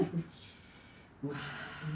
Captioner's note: laughing